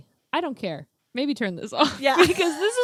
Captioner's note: both laughing